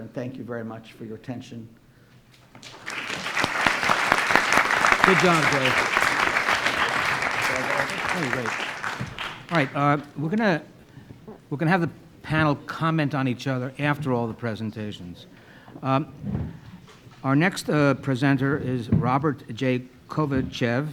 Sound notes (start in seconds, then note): 2.5 audience applauding